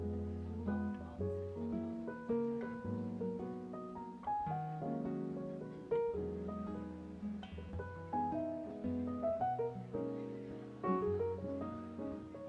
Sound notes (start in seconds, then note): 6.3 guests murmuring; 6.3 light piano music continues